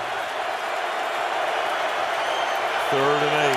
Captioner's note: crowd cheering